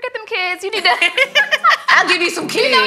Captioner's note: ladies laughing